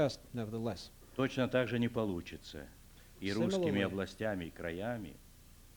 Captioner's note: non-english speech